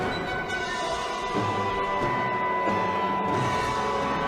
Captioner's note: ringing sound